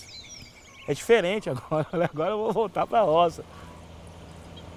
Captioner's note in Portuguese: risos